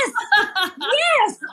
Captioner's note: laugh